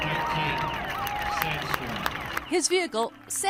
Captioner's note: commentator speaking, cheers and applause